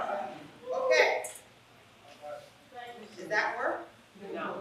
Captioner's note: laugh